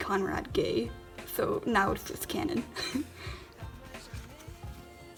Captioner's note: laughs